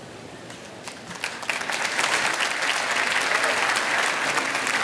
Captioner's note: applause